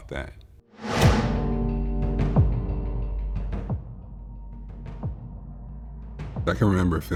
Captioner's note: car Noise